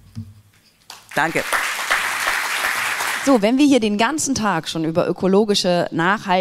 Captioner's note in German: applaus